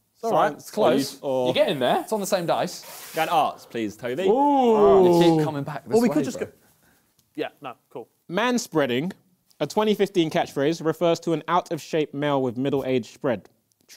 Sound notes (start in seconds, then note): none